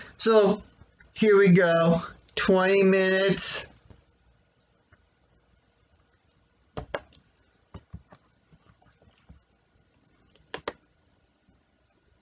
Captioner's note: clank of phone hitting the desk, click of computer's trackpad